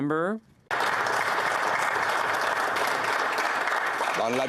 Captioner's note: applause